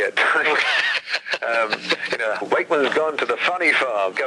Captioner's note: host laughs